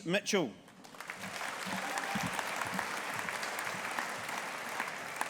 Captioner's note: audience applauding